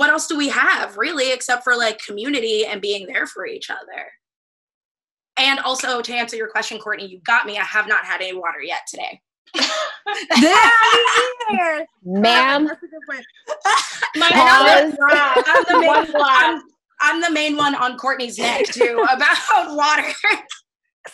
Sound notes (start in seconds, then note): 10.4 laughter; 20.6 laughs